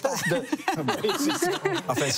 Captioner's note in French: rires